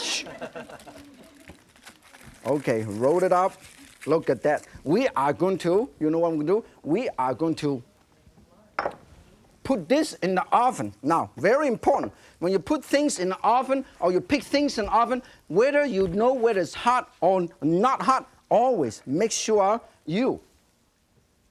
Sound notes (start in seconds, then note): 0.0 audience laughing; 8.8 dish set down